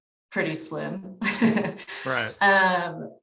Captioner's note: chuckles